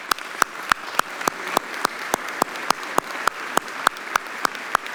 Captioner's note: audience applauding